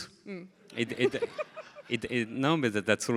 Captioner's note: everybody laughing